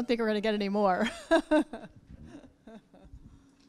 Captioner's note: laughing